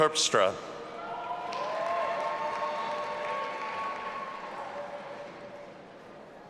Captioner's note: audience applauding and cheering